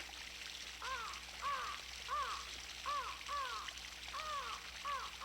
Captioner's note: crow squawking